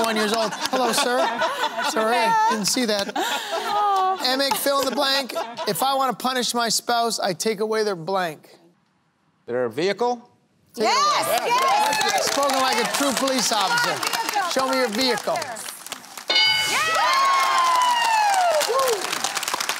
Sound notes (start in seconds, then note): 16.3 cheering